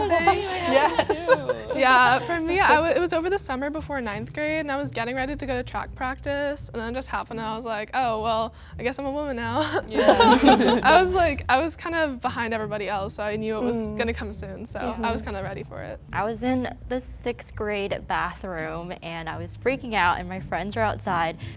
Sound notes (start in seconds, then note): 10.0 all laugh